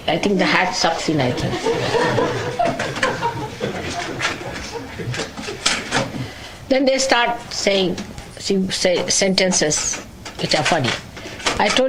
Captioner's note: laughter